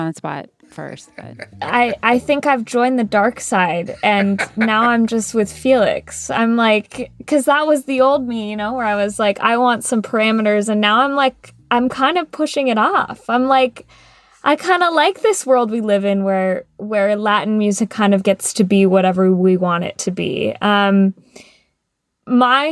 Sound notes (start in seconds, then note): 3.9 laughter